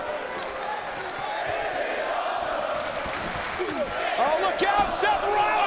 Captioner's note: audience chanting and clapping